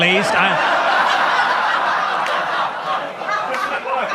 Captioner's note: audience laughs